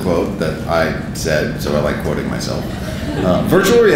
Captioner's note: audience laughing